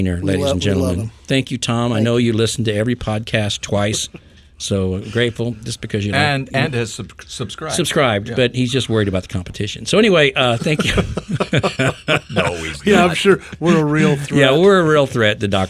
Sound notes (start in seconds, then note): 10.4 men laughing